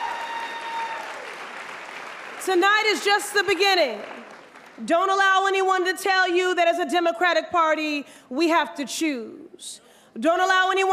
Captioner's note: applause